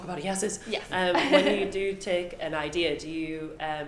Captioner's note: laughs